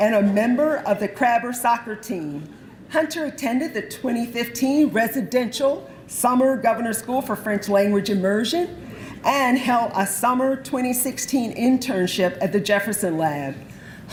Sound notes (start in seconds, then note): none